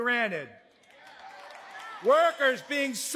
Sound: audience cheering

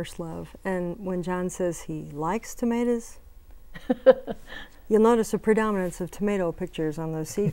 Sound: laughing

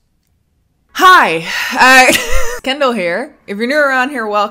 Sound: chuckles

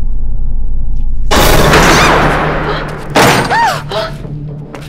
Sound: door shuts

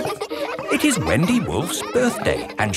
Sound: kids laughing

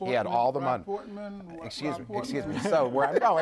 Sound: laughter

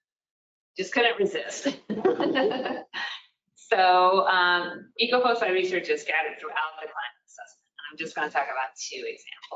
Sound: laughs

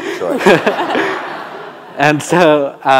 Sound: audience laughing

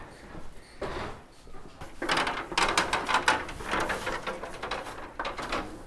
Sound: metal ladder rattling

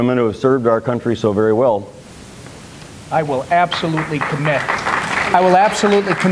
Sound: applause

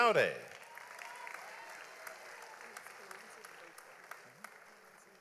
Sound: audience applauds

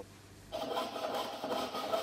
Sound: sawing noise

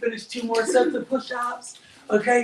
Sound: giggles

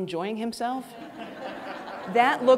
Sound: audience laughing

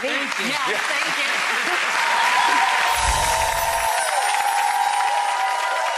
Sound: applause; chimes

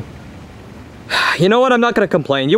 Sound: sighs

